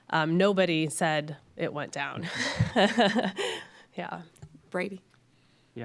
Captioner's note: laughs